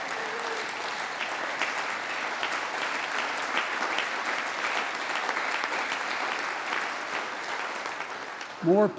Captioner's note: applause